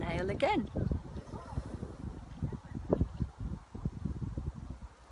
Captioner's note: slow inhalation